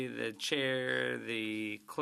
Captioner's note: speaking French